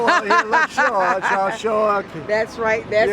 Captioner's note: laughter